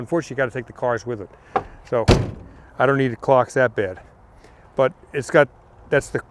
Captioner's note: car door slams